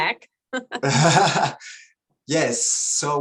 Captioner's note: both laughs